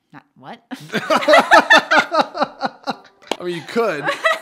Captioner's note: laughs loudly